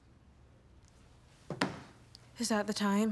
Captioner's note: phone thudding